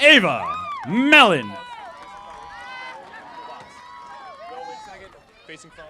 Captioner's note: audience applauding